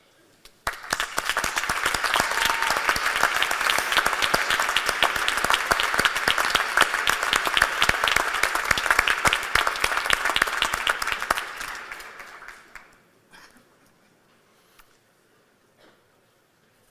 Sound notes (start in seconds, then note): 0.5 applause